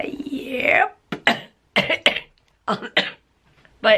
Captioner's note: coughing